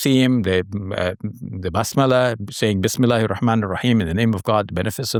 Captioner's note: foreign language